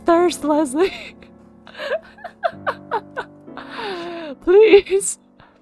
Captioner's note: laughs